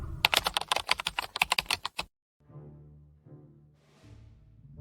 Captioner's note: whooshing sound; keyboard clicking